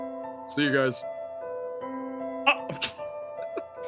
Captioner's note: stammers; laugh